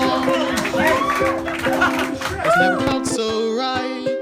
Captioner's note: audience applauding